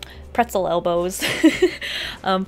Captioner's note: laughs